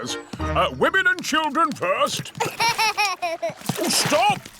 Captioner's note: laughs